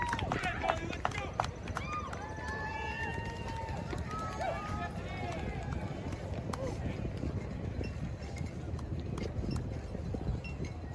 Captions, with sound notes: (attendee cheering) - Okay, Johnny, let's go! (crowd cheering) (helicopter whirring) (glasses clinking)